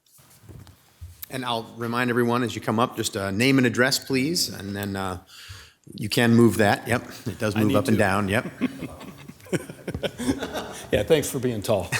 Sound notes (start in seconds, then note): 8.8 all laughing